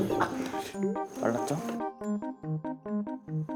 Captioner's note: confident